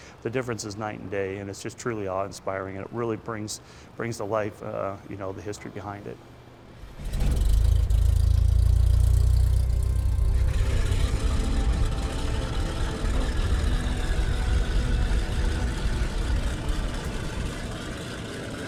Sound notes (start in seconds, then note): 7.3 plane engine hums; 10.2 reverential music